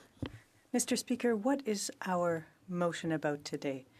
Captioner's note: speaking in french